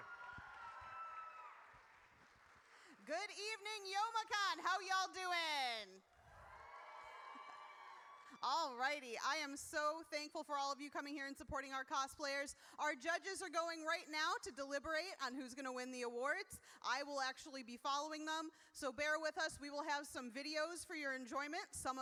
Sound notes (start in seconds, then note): 0.0 audience cheers; 6.1 audience cheers